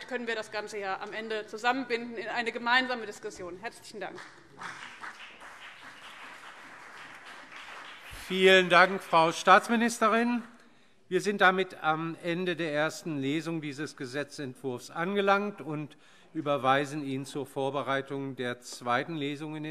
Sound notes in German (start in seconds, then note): 4.0 Beifall CDU und BÜNDNIS 90/DIE GRÜNEN